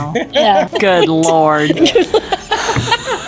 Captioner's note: laughing